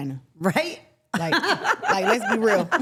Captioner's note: laughing